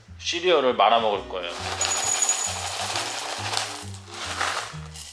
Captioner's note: pouring